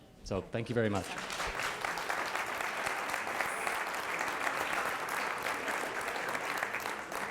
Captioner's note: applause